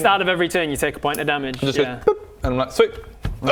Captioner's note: boop